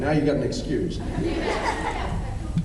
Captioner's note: laughs